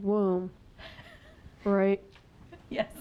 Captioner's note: chuckling